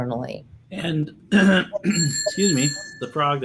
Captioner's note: clears throat